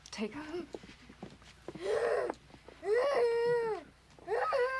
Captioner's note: Helen Moaning